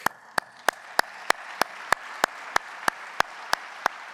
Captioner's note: audience applauding